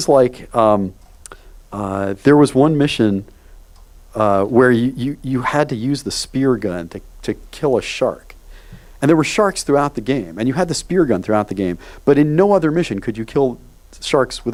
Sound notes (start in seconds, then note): none